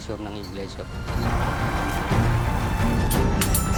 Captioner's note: construction ongoing